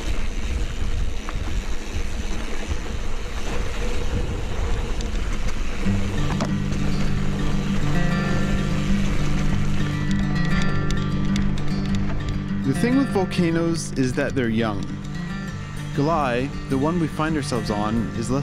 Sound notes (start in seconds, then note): none